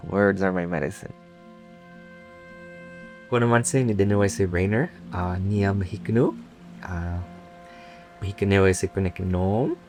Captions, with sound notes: Words are my medicine. (speaking in native language)